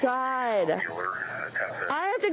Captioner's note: radio chatter